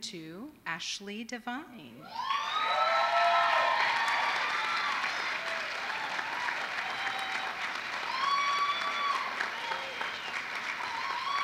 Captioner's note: applause